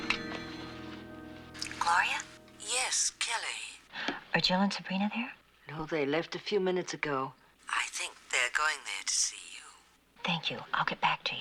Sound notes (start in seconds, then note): 2.6 whispering